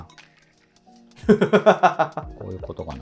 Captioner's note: laughing